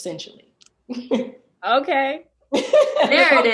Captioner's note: laughs